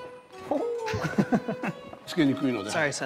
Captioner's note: laughter; speaking japanese